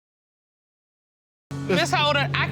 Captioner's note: crowd laughs